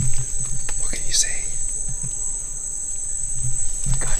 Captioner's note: whispering